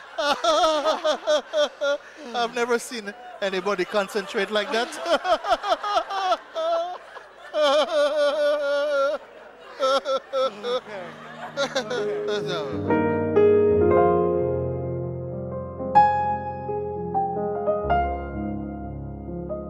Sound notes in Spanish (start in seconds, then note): 6.2 risas; 12.7 música de piano